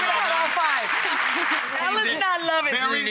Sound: clapping

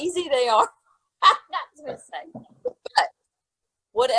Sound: laughing

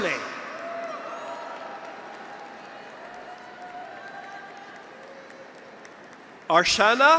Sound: graduates cheer; audience applauds

